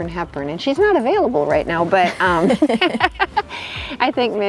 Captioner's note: both laugh